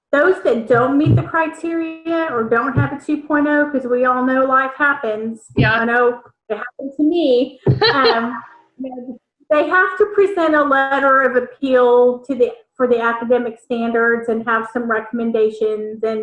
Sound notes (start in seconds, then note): 7.6 laughs